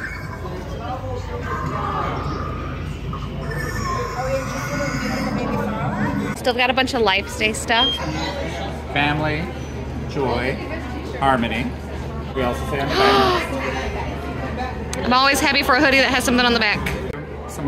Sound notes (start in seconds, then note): 12.9 gasps